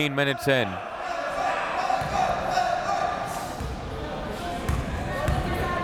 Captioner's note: crowd members shouting